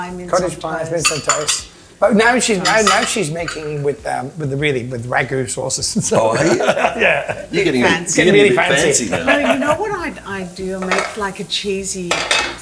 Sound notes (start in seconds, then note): 6.0 laughs